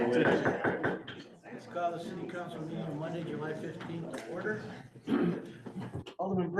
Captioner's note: gavel bangs